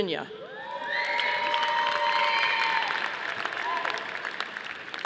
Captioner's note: audience applauding